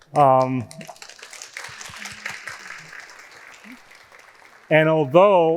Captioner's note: audience applauding